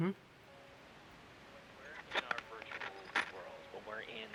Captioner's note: static